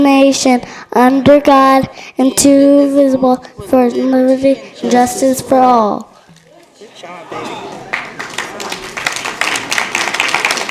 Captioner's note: applause